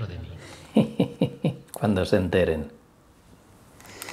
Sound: laughing

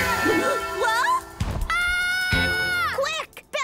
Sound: screaming

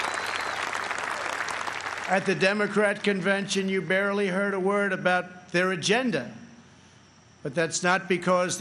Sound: applause

